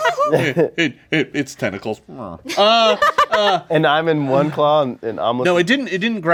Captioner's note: laughing; whimpers